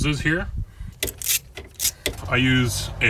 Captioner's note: ratcheting